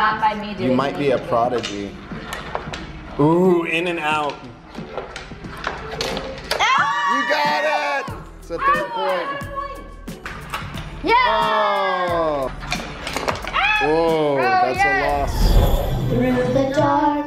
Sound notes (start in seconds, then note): 6.6 cheering; 16.3 singing in unison